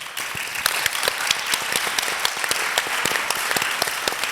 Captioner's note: audience applauding